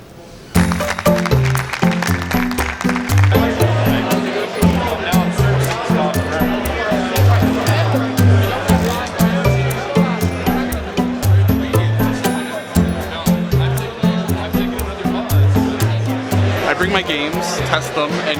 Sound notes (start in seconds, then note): 0.5 audience applauds; 3.1 light playful music; 3.1 people chattering